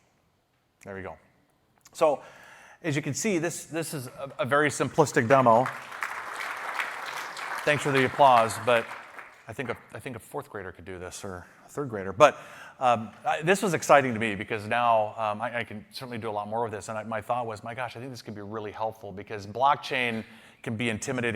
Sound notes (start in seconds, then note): 4.1 applause